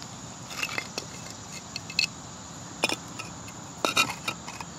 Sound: clanging sound of rocks

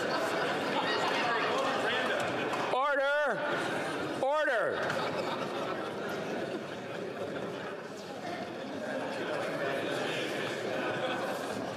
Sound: chatter

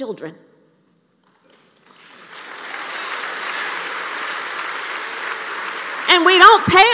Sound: applause

